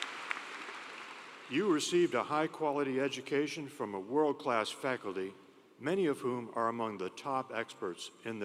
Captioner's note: applause